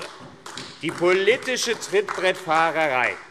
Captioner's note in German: Beifall AfD